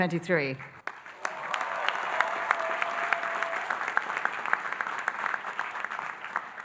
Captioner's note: audience applauding and cheering